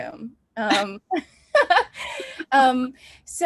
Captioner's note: laugh